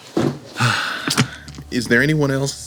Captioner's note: exhaling